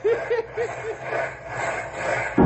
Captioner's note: laughing